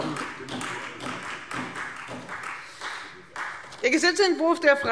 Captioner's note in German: Beifall Freie Demokraten